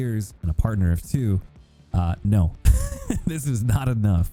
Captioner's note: laughs